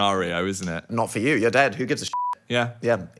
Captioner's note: beep